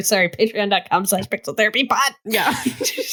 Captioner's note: laughter